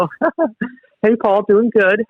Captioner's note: laughing